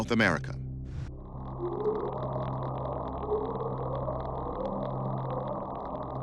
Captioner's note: mysterious sounds vibrating